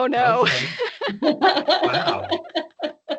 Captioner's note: laughing